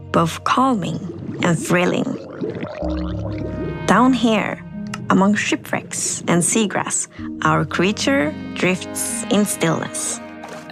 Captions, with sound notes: both calming and thrilling. [Drowned gurgling] Down here among shipwrecks and seagrass, our creature drifts in stillness.